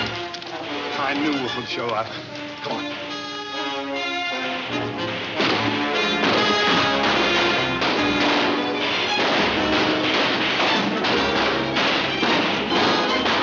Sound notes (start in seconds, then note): 2.1 dramatic music; 2.1 guns banging